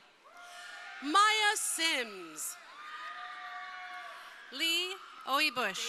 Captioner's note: crowd cheering